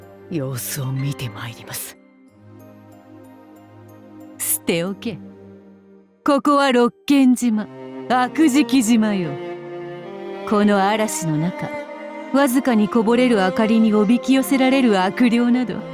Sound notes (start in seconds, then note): none